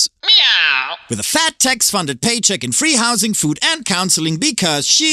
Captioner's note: meow